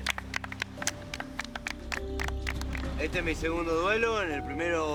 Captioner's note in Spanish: aplauden